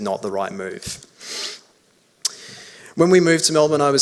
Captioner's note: sniffs